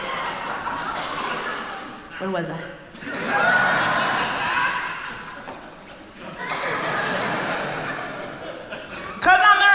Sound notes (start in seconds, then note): 2.9 crowd laughing